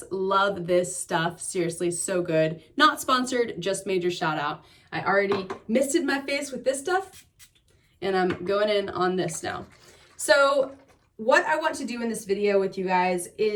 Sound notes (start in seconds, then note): 7.1 liquid spritzing; 9.2 liquid shaking